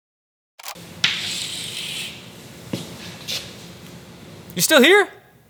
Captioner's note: chalk scratching